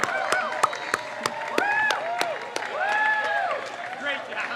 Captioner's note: crowd cheers